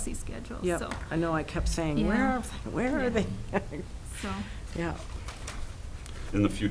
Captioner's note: laughs